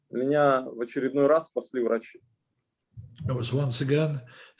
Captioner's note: speaking Russian language